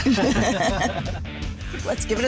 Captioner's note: laughing